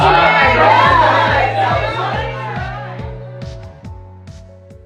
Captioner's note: crowd cheers